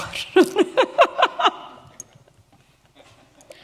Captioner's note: laughter